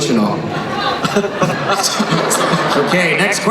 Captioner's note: laughing